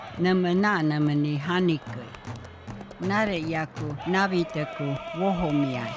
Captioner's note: chanting and drumming; hooves pounding; chanting and drumming